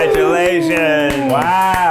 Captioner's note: clapping